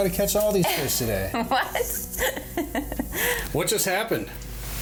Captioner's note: laughs